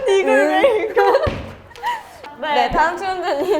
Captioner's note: laughing at different points